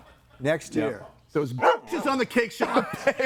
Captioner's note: dog barking